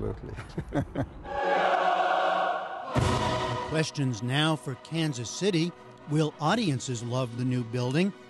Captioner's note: laughter